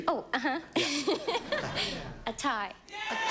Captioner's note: giggles